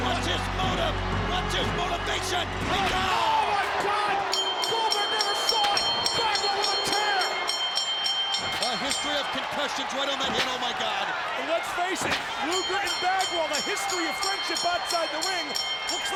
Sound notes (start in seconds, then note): 4.1 bell rings